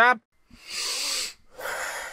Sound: sigh

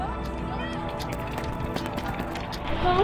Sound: steps

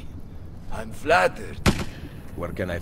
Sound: gunshot

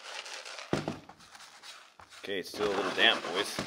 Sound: gold clattering

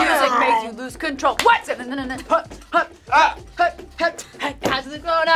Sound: vocalizes

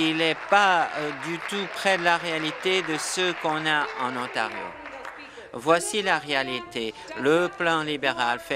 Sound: applause

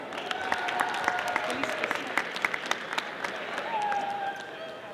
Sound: audience applauding

